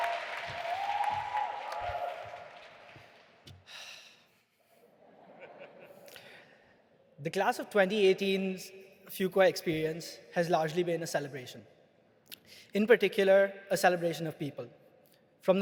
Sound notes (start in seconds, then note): 3.9 sighs; 5.1 audience laughing